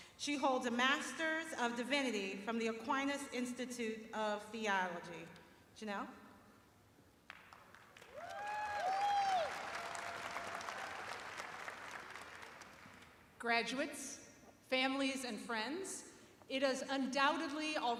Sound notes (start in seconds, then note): 4.0 cheers and applause